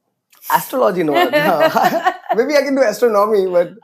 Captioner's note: laughs